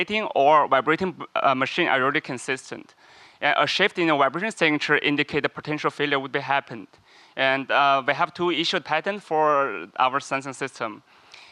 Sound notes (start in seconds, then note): none